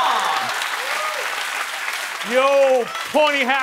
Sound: cheering and applause

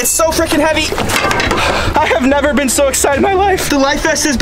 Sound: sighs

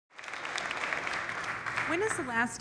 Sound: audience applauding

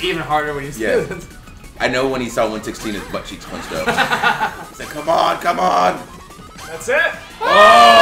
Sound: laugh

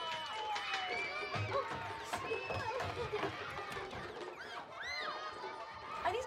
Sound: children whooping and shrieking loudly

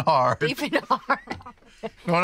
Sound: laughing

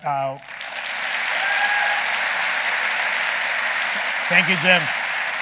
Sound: audience applauding

